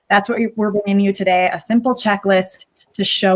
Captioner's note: none